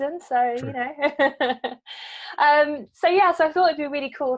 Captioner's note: laughing